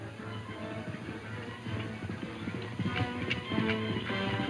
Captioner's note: hooves pounding